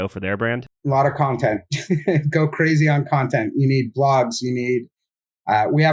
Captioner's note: laughs